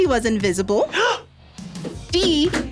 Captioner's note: gasps